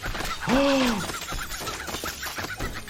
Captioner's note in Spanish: Sniffles gritando; El doctor jadea